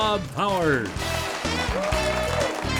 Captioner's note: applause